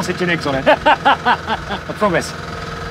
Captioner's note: laughing